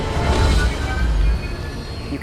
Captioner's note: spacecraft rumbling